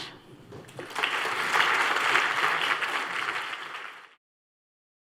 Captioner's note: applause